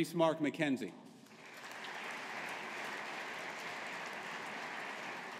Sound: audience applauding

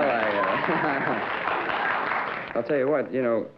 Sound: laughter and applause

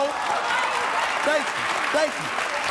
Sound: audience applauds

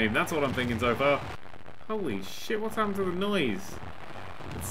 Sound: fuzzy static noises

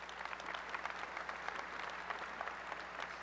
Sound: applause

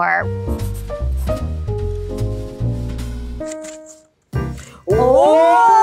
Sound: cheery jazz music; pencil writing

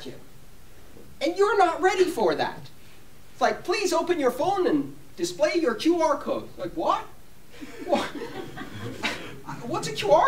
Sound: laughter

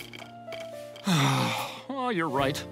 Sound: sighs

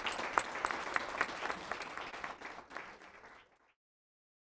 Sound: applause

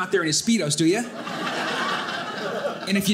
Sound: audience laughing

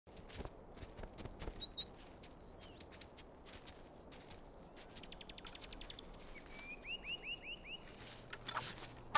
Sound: chirping

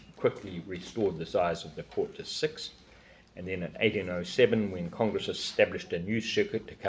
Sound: none

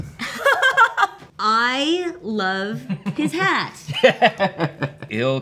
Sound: laughs

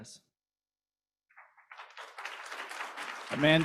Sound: applause

